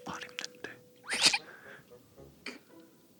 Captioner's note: burst out laughing!!